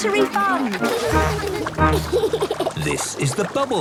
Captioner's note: giggles